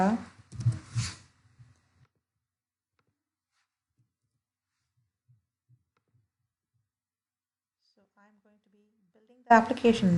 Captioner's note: no audio while typing